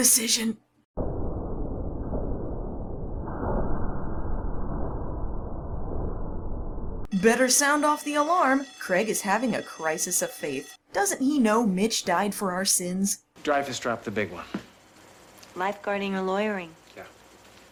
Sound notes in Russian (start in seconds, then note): 1.0 звук бездонной пропасти; 7.0 под звук сирены в сцене